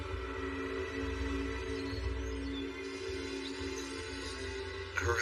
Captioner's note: bir chirping